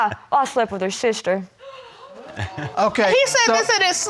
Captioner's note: crowd gasping